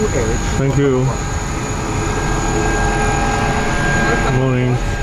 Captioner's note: plane engine roaring